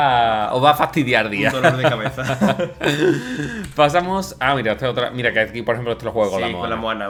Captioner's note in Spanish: risas